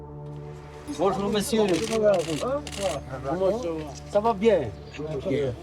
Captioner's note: speaking in French